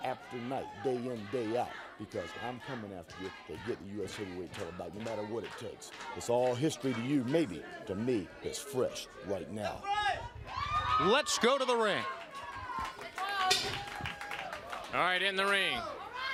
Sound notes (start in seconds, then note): 14.4 crowd cheering